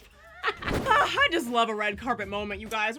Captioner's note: laughing